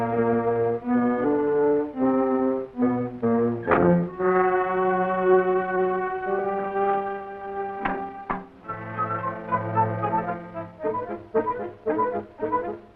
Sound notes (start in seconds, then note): 3.8 car door shuts; 8.6 quirky dramatic music